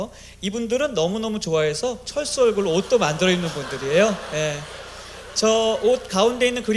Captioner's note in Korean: 웃음